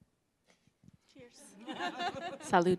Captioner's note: laughter